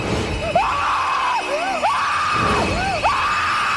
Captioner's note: screaming